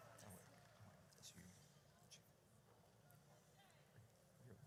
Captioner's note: audience cheers; group chattering